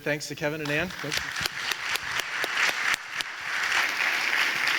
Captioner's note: audience applauding